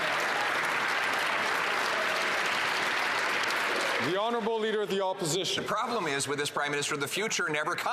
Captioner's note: some Applause